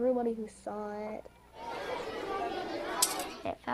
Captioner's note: children talking